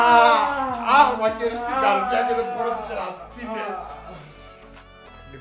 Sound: hahah

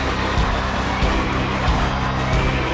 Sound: chanting continues

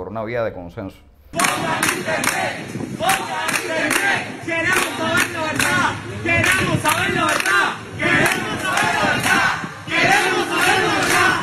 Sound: chants of “Restore Internet!” and “We want to know the truth!”

